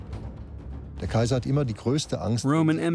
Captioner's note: speaking German